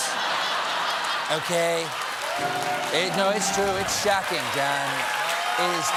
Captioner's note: laughter